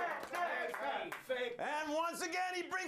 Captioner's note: audience cheering